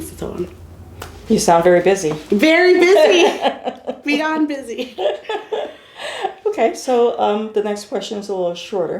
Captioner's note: laughter